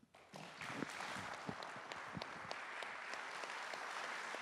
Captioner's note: applause